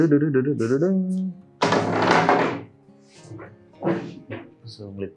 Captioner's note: singing some songs; wood sound